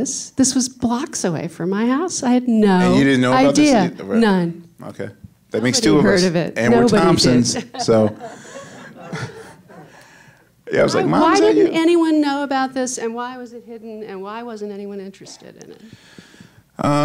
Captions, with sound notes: This was blocks away from my house. I had no idea. None. - Okay, that makes two of us. And we're Thompson's. (audience laughing) - But why didn't anyone know about this and why was it hidden? And Why wasn't anyone interested in it?